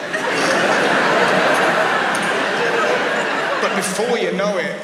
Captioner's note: audience laughs